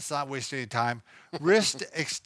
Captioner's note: laughs